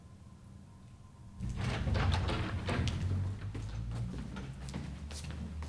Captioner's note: door opens